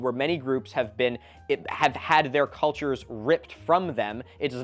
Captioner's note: none